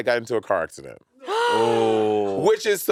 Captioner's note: gasping